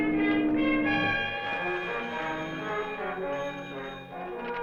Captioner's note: phone ringing